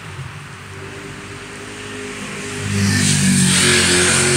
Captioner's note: street noise